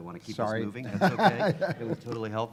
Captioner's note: laughs